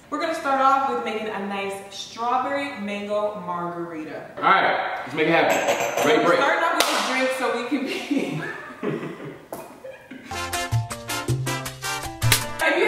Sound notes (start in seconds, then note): 7.7 laughing; 10.2 fun music